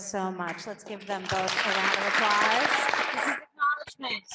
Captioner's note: audience applauding